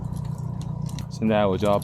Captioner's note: sound of riding